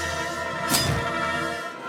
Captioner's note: intense music; logo whooshing; helmet thunks